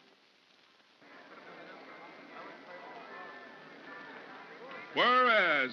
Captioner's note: soft indistinct crowd chatter